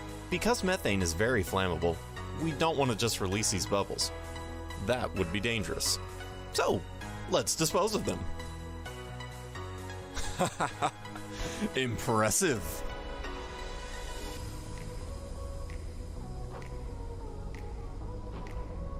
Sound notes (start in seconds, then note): 10.2 laughs